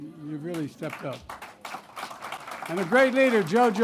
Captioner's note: applause